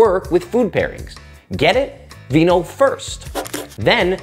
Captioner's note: pencil scratches